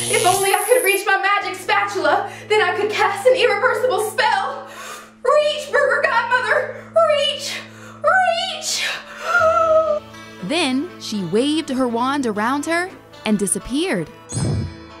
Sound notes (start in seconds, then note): 9.4 gasps